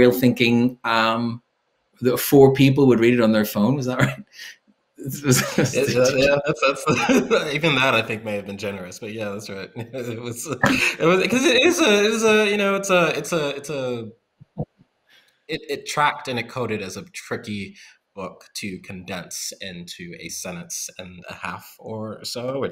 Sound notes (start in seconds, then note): 5.5 chuckles; 6.9 laughs